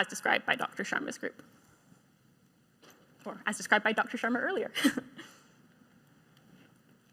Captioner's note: chuckles